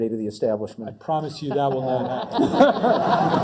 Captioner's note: laugh